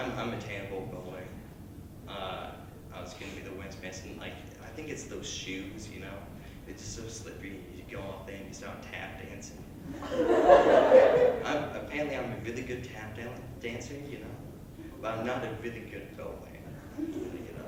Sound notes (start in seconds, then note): 9.9 laughter; 16.8 light chuckles